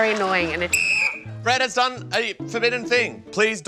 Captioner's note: blows whistle